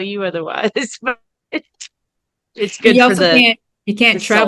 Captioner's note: laughs